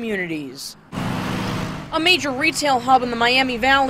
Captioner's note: sound of cars